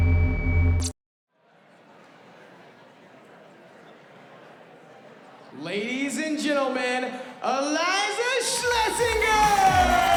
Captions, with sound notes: [indistinct chatter] - LADIES AND GENTLEMEN, ILIZA SHLESINGER!